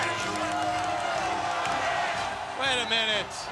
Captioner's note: crowd cheering